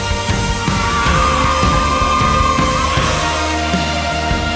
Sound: cheering

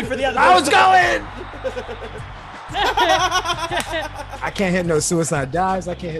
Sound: laugh

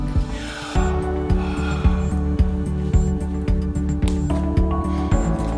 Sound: Laverne exhales

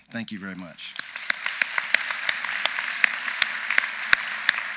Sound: audience applauds

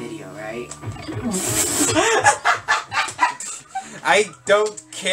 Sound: bursts into laughter

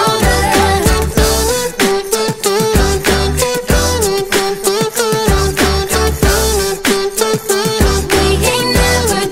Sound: beatboxing

